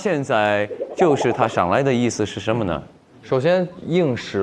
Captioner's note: accent slips